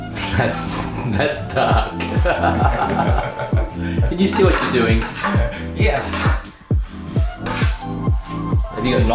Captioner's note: laughs